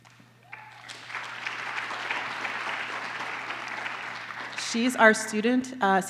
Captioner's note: applause